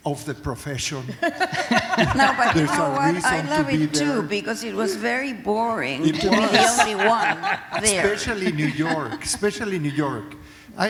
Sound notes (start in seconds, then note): 1.0 laughter